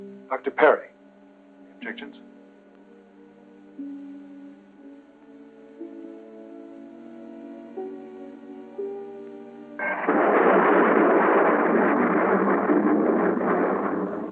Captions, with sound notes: Dr. Perry. Any objections? [spaceship rumbling]